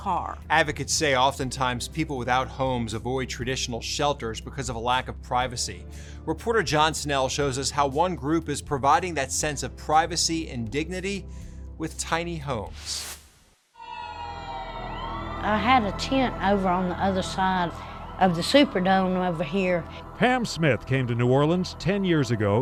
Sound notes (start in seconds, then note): 12.9 sirens wail